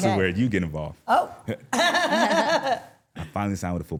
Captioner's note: laughs